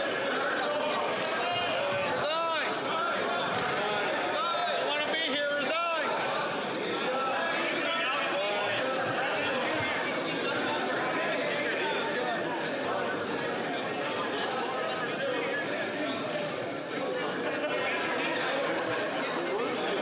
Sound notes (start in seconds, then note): 8.8 yelling